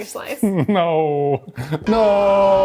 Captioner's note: laughs